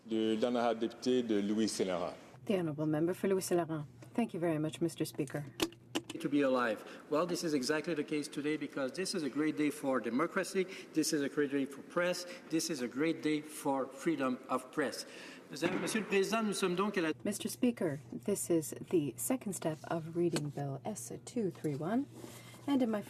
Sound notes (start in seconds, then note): 5.6 speaking in french